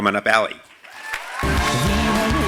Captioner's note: applause